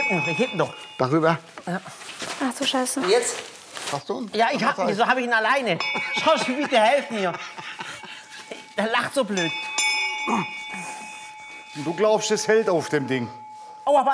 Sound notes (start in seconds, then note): 9.0 Lachen, Glockenläuten; 11.2 Glockenläuten